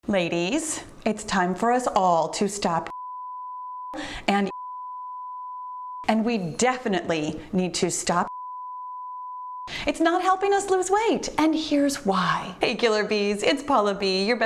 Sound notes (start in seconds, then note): 2.8 beep